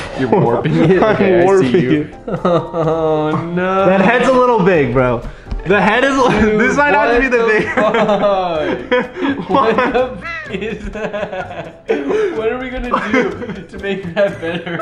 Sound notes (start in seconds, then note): 0.1 chuckles; 3.0 sighs; 10.4 bird noise